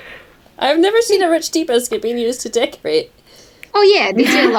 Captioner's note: laughts